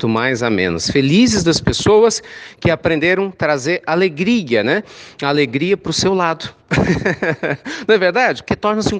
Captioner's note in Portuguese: risos